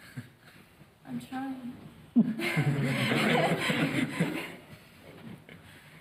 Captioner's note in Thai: หัวเราะ